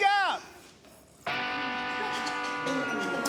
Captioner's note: coughing